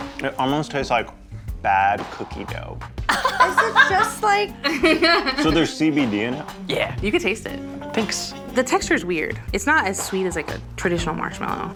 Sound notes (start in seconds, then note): 3.1 laughing